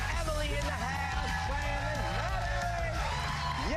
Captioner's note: cheers and applause